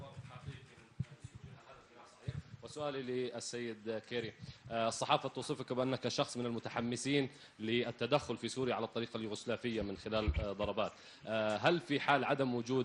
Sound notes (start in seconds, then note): 7.1 in Arabic